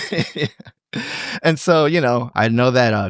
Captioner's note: laughing